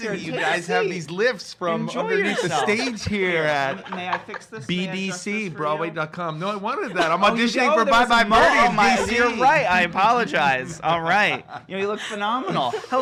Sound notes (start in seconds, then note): 8.0 laughs